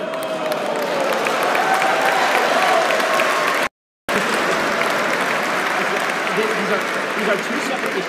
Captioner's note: applause